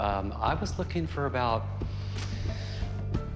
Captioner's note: inhales, smacks lips